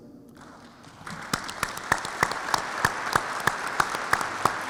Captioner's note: audience applauds